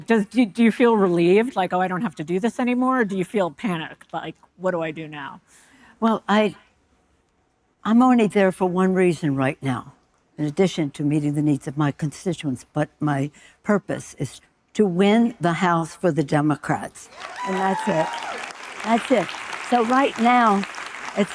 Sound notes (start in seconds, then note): 17.1 audience cheering